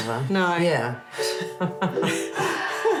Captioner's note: all laugh; upbeat chime music